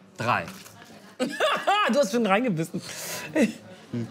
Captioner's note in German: lacht